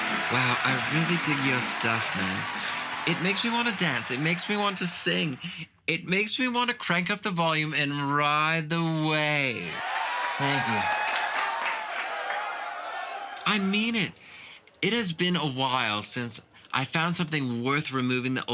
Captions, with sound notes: Wow, I really dig your stuff man, it makes me want to dance, it makes me want to sing, it makes me want to crank up the volume and ride the wave. (Crowd cheering) C.E. Thank you I mean it, it has been a while since I found something worth removing